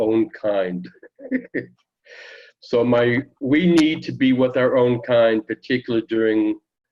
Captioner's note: laughter